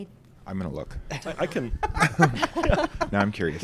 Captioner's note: laughs